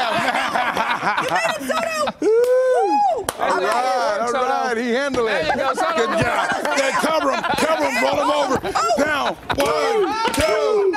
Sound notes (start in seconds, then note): 2.7 laughter